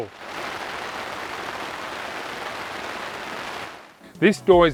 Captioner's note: raindrops on canvas awning